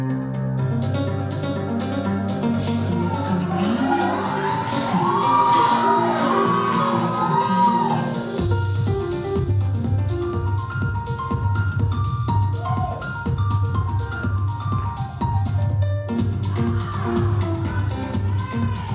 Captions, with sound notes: (upbeat music) And it's coming out of it (audience cheering) (upbeat music)